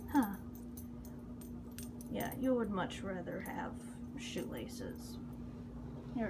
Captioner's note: collar jingles